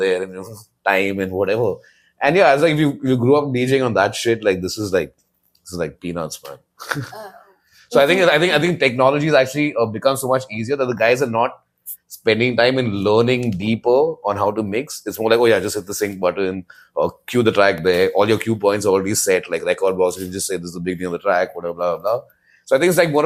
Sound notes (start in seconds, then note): 6.8 laughs